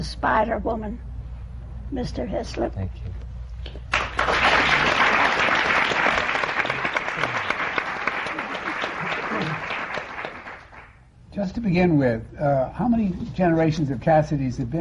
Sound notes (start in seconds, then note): 8.3 laughter; 10.8 laughter